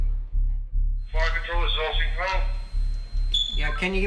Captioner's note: radio Sounds